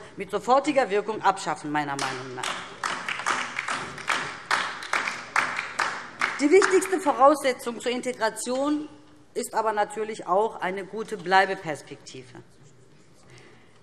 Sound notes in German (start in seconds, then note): 2.4 Beifall DIE LINKE